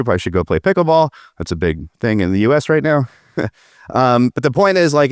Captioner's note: chuckles